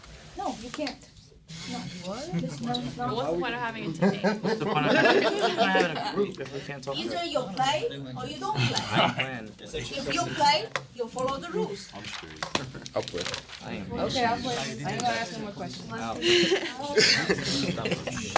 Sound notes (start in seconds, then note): 3.6 students murmur